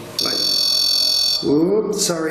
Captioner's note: REM-POD beeping